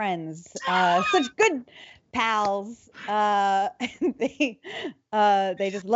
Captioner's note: laughing